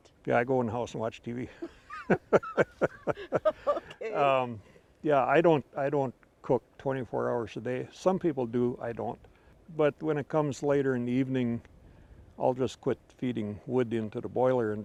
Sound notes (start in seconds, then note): 1.5 laughing